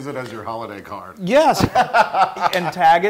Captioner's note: laugh